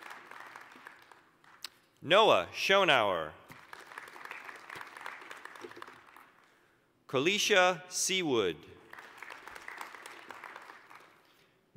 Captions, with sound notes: (applause) Noah Schonauer. (applause) Koleshia Seawood. (applause)